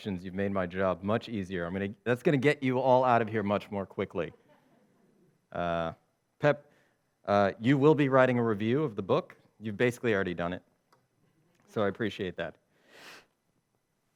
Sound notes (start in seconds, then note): 4.6 audience laughs